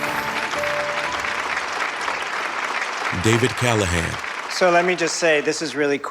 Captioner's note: audience clapping